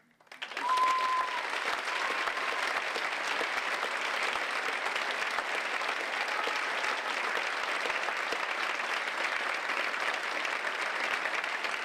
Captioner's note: applause